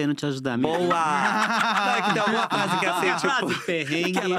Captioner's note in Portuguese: risos